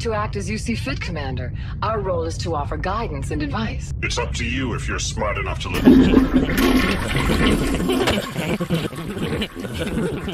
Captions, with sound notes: You are free to act as you see fit, commander. Our role is to offer guidance and advice. It's up to you if you're smart enough to lis- [toilet flushes] [laughing]